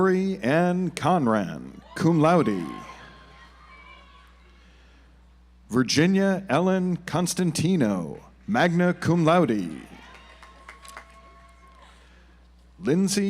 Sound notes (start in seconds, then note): 3.0 audience applauds; 9.5 audience applauds